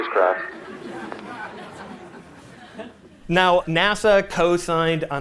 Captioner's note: laughter